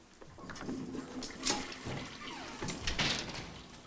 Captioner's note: toilet flushes